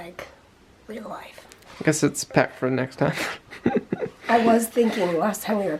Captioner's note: laughs